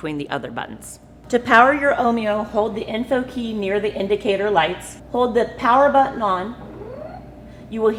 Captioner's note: start up sound plays